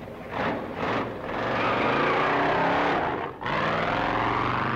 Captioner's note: engine revving